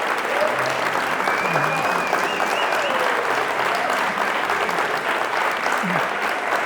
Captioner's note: crowd cheering and applauding